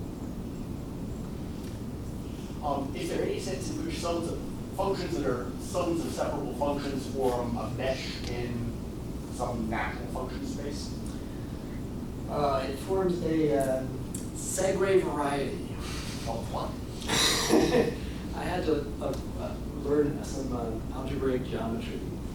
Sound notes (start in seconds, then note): 14.9 speaking in foreign language; 17.1 laughs